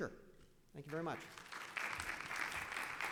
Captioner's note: audience applauding